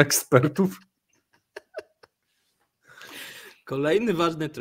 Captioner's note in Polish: śmiech